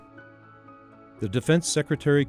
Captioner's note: voiceover